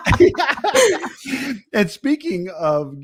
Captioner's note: both laugh